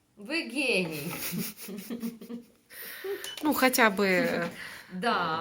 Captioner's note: girls are having good time, laughing